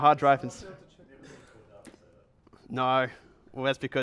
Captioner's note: voiceover